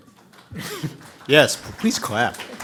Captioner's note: audience applauding